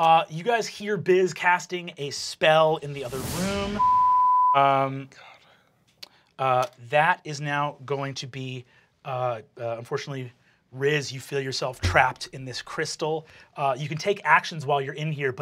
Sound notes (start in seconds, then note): 3.6 beep